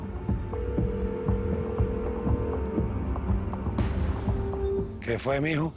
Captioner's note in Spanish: La otra línea timbra